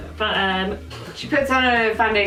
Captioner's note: laughs